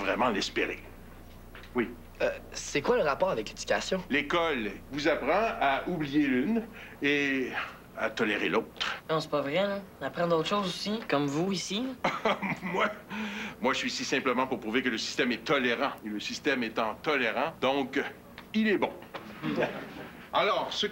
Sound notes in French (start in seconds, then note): 12.0 Rire